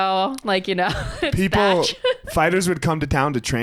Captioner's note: laughs